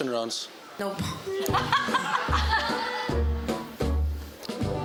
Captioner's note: laughter